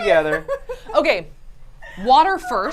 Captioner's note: laughing